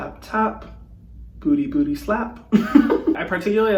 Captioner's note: laughing